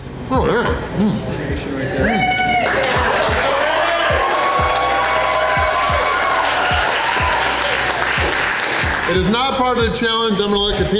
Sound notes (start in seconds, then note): 2.1 crowd clapping and cheering; 5.5 crowd